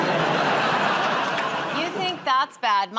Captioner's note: laughter